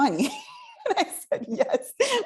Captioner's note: laughs